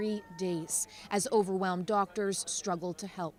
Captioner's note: screaming